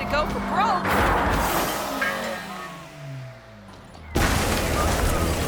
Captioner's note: ramp clangs; car crashes